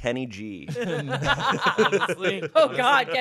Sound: everyone laughs

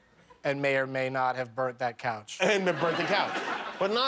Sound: laughter

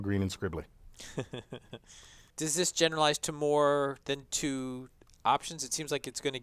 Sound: laugh

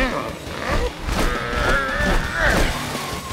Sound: grunting

